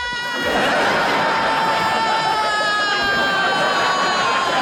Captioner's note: audience laughs